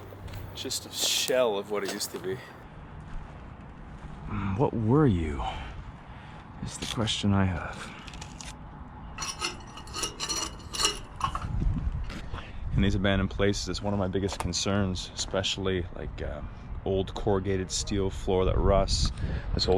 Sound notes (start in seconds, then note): 9.2 metal clanks